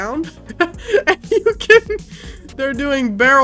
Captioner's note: laughs